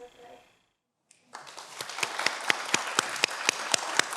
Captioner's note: everyone applauds